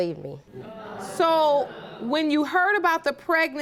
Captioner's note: audience murmuring